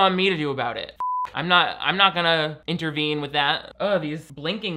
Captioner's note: beep